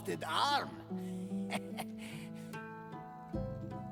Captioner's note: laughs